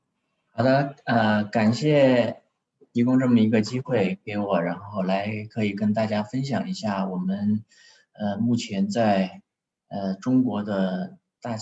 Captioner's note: speaks in Chinese